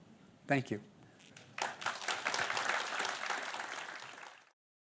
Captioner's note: applause